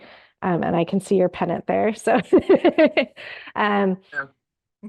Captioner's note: laughs